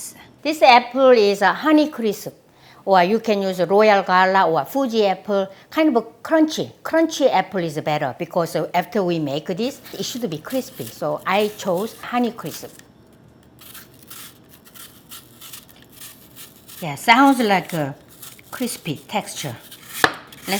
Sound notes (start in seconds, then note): 13.4 slicing